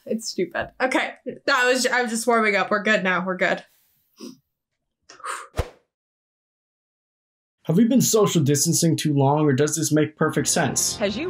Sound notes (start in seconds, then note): 5.1 sighs